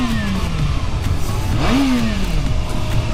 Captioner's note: engine revs